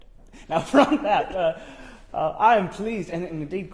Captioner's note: laughs